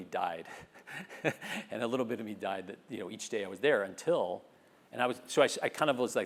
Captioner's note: laugh